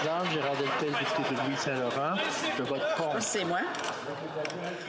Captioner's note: speaking French